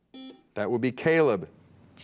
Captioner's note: buzzer beeps